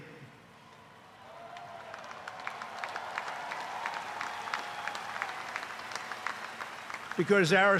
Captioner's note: applause